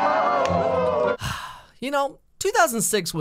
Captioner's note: sigh